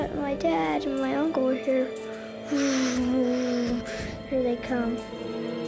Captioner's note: imitation helicopter whirring